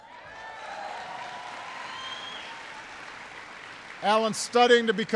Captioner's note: applause